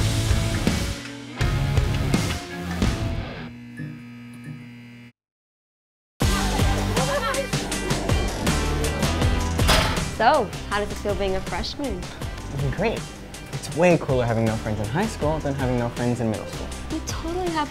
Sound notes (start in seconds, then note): 6.2 upbeat pop music; 6.7 students laugh